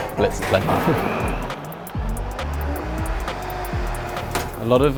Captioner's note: blender whirring